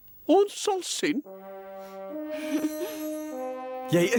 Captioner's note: laughs